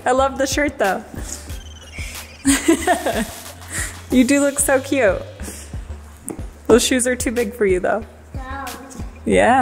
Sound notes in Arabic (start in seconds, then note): 2.1 تضحك